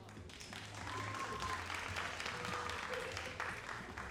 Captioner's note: all applauding